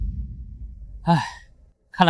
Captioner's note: sigh